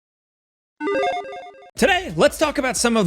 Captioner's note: 16-bit chimes ring